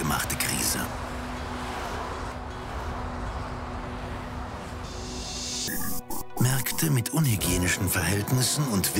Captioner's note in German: Autogeräusche